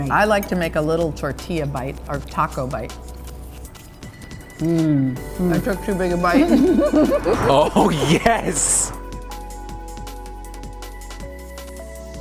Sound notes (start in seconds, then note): 6.3 both laugh; 6.3 both hum; 8.8 upbeat music